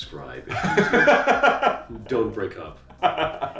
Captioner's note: laughing